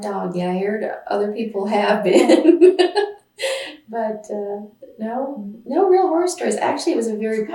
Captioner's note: laughs